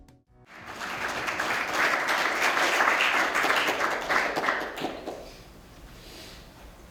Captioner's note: upbeat music; applause